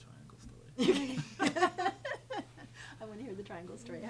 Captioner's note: group laughing